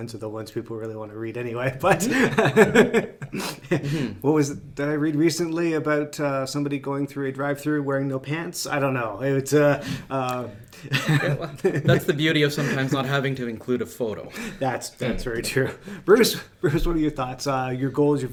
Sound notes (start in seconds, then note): 1.8 everyone laughs; 10.8 laughs